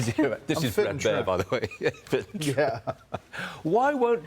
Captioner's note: laughter